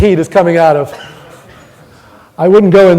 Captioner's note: audience laughing